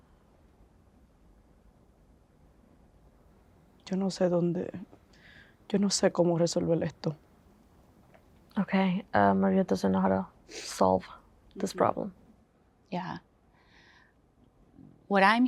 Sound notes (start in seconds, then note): 3.8 Spanish